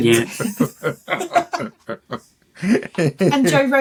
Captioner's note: laughter